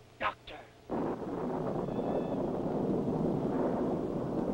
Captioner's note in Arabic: هدير الرعد